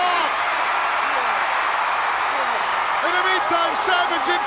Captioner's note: audience cheering